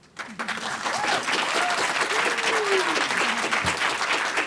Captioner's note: audience applaud